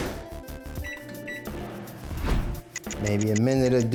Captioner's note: microwave beeps; clock ticks